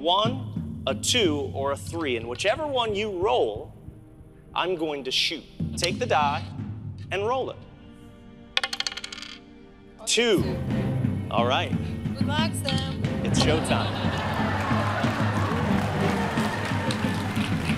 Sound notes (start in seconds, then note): 8.6 die clattering; 16.4 audience cheering; 16.4 tense expectant music